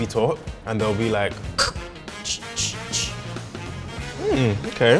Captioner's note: cutting sounds